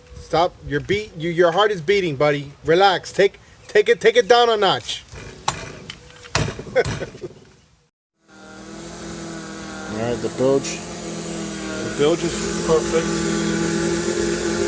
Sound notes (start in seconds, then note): 5.0 pounding; 8.2 motor